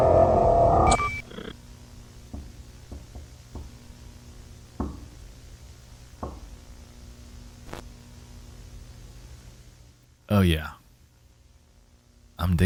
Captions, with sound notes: (knocking on door) Oh yeah, I'm digging this.